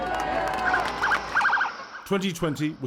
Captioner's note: cheering and applause